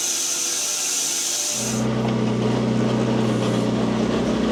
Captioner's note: loader rumbles